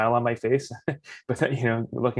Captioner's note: laughs